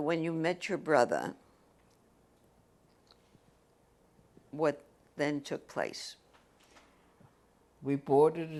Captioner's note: pauses for 3 seconds